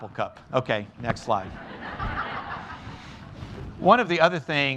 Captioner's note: laughter